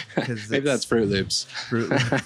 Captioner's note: laughing